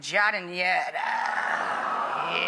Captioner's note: audience aahs